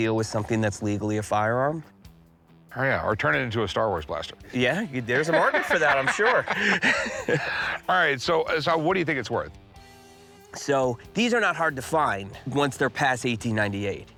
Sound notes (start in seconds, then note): 5.0 laughter